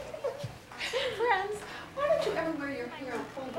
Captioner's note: laughs